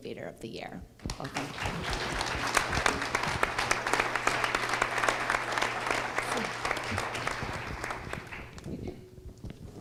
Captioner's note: applause